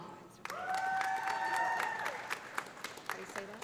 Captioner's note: audience applauding; audience cheering